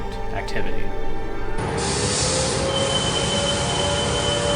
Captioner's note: air raid siren and bus brakes